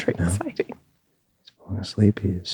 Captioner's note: whispering